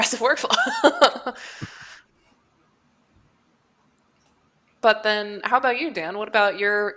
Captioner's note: laughs